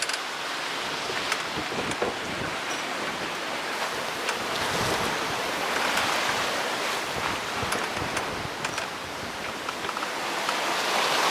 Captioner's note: wave Noise